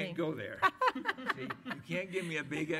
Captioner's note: laughter